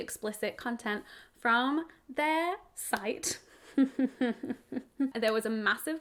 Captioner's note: chuckles